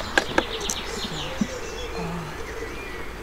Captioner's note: quietly